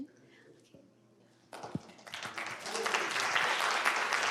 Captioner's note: applause